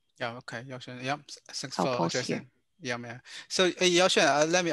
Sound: speaking in foreign language

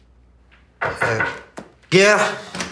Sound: knock on door

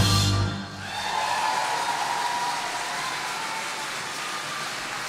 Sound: audience clapping

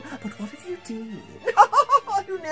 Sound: laughs

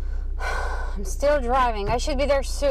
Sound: sighs

